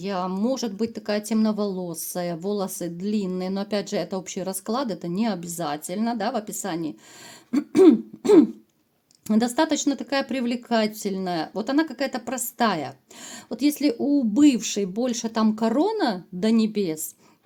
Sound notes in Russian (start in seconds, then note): 7.5 кашель; 7.5 откашливается